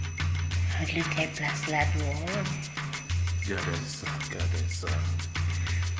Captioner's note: speaking in foreign language